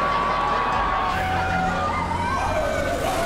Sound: cheering; howling

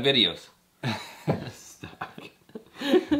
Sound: laughs

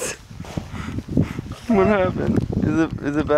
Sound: laughing

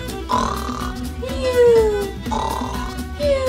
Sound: loud snoring

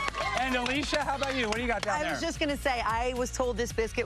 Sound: applause

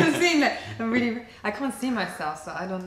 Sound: laughter

